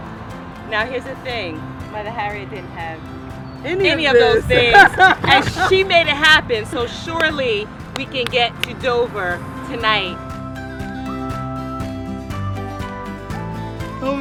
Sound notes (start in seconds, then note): 3.8 laughing